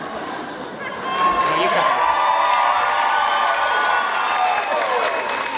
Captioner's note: audience cheering